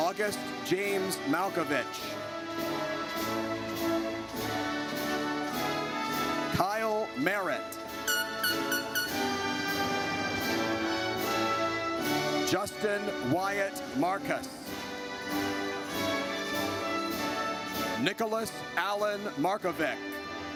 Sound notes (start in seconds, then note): 2.6 triumphant music; 7.9 horn blares; 15.2 triumphant music